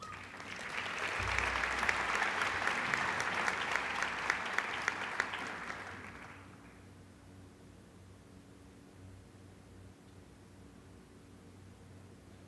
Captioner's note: applause